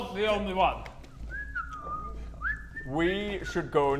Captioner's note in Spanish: Silbido inocente